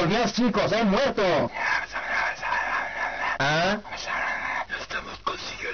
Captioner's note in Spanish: susurros